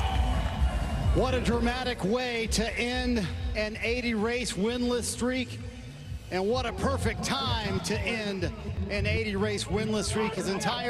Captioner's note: cheers and applause